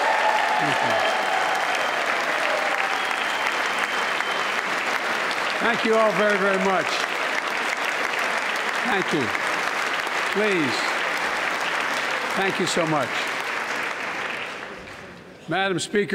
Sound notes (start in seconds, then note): 4.2 applause